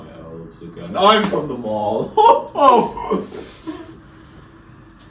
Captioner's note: again with the weird Santa laughter